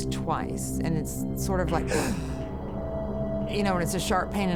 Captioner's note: gasps